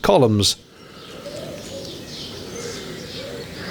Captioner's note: birdsong and my wheezing from the steps